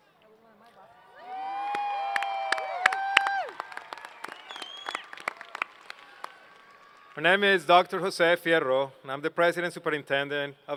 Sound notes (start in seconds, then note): 1.0 cheers and Applause